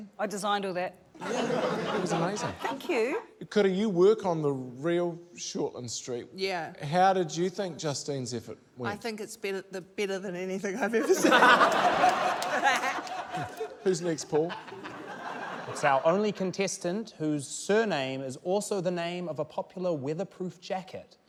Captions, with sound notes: - I designed all that. - Yeah. It was amazing. - Thank you. - Kura, you work on the real Shortland Street. - Yeah. - How did you think Justine's effort went? - I think it's better― better than anything I've ever seen. (LAUGHTER) (LAUGHS) - Who's next, Paul? - It's our only contestant whose surname is also the name of a popular weatherproof jacket―